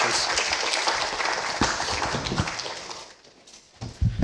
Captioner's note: applause